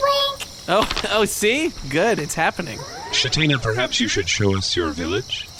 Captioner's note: laughing